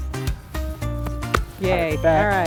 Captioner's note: claps hands